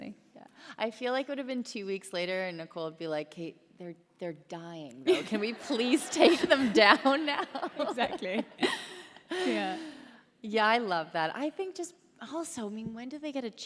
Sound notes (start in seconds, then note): 7.8 laughter